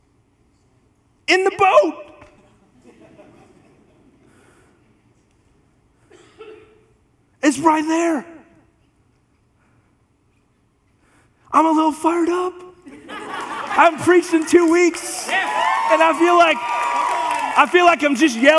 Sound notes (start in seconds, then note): 12.8 congregation laughs; 17.2 congregation applauds